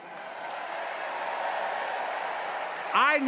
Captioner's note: audience cheering